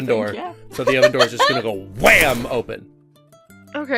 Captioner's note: heavy crash